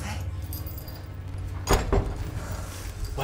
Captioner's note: Ellie speaks in French; door closes